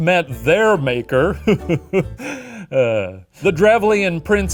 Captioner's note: chuckling and sighing